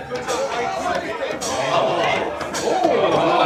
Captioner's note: laughing